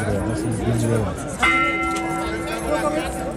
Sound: bell ringing

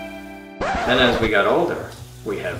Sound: record scratch

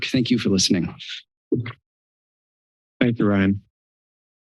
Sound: silence

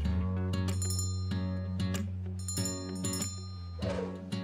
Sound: bell ringing

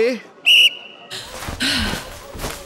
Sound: blows whistle

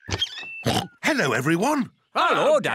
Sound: oinks

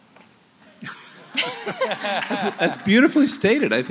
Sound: laughter

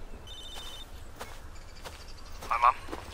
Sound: phone ringing

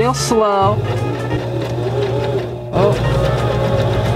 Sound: sewing machine slowly whirring

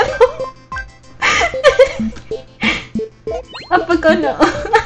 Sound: laughs

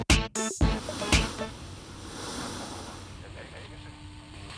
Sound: static crackles

